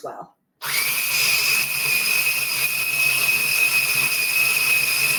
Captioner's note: food processor whirring